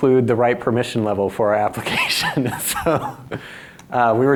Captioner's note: laughs